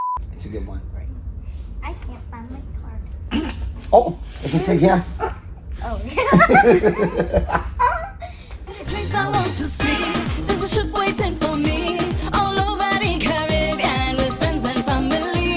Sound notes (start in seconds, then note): 3.0 laughing; 6.0 all laughing